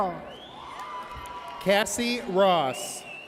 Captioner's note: audience cheers